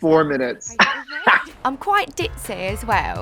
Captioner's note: laughs